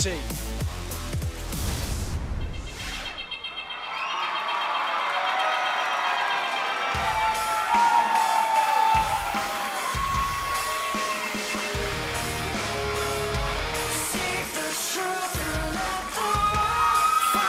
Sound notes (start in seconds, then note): 5.3 crowd cheering